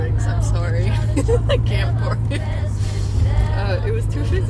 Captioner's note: through laughter